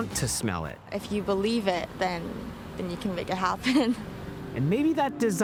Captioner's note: laughing